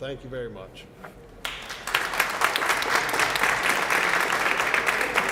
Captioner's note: applause